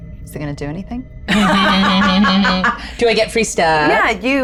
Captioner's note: laugh